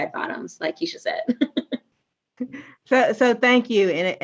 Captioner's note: laughs